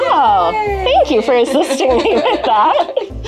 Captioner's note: laughs